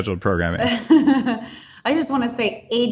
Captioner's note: laughing